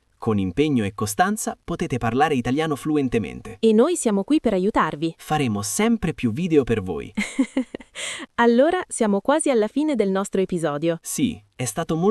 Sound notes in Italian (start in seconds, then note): 7.2 risate